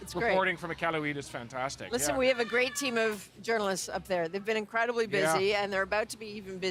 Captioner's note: speaking another language